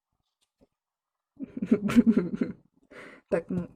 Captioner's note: stupid giggle